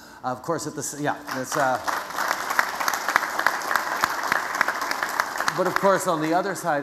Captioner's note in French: Applaudissements